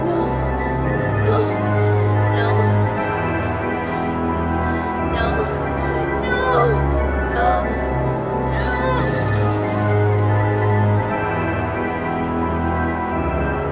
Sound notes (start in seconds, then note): 3.7 panicked breathing; 8.9 coins drop